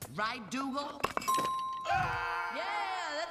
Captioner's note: bell dings